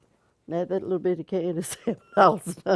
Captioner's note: laughter